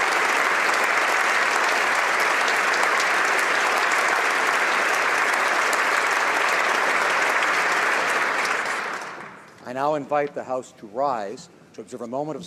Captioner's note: applause